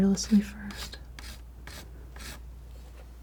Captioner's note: scratching